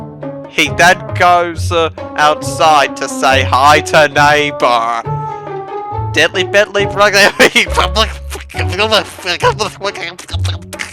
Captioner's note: alien gibberish